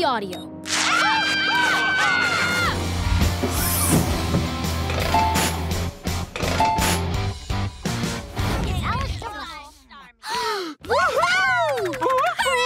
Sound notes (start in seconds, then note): 0.6 screaming; 10.2 gasping